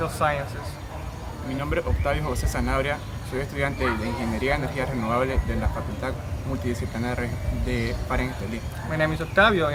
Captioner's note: speaking spanish